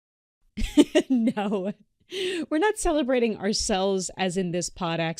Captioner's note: laughs